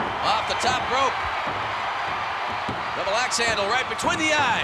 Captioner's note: applause